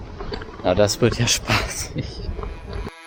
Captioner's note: sarcastically